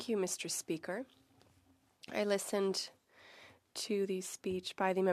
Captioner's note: speaking French